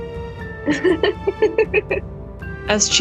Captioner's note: kayla laughs